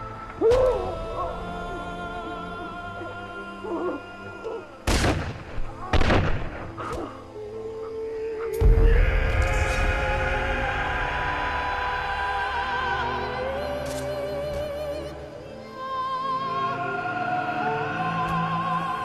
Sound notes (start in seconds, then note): 0.2 groans; 4.8 gunshots; 7.7 yelling